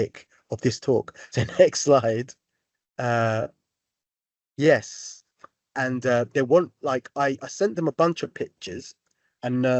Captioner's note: chuckle